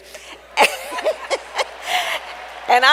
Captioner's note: laughs; applause